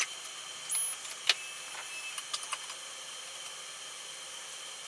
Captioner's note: device gears whir